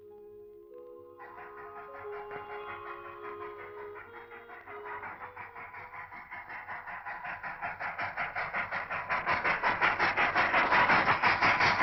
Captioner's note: train rumbling